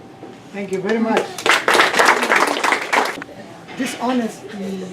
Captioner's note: applause